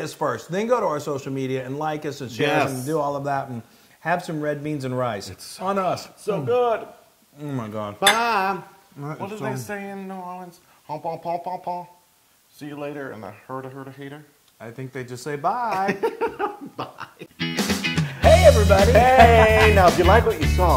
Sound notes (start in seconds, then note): 15.7 laugh